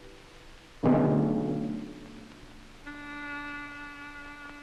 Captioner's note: weights hastily dropped clang together at the gym